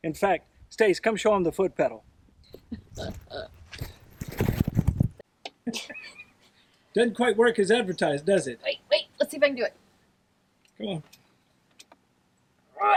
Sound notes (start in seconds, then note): 3.4 laughing